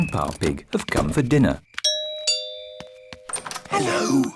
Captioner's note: rings doorbell; oinks